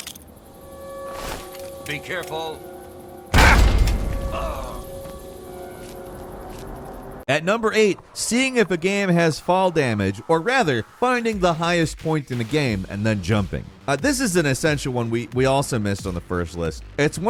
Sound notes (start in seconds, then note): 3.3 bomb exploding; 5.6 groans